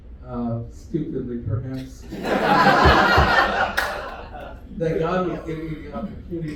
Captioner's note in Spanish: risas